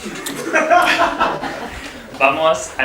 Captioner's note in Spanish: Risas